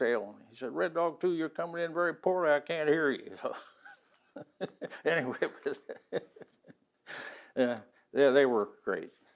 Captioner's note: laughs